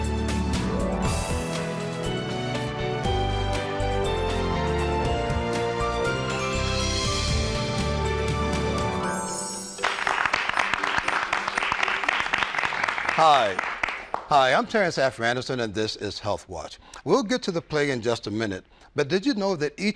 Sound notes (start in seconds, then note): 9.7 applause